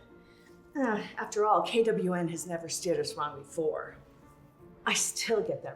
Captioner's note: groans